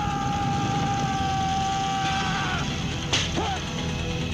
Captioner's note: loud screaming